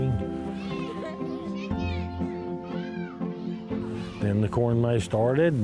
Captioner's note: children shouting playfully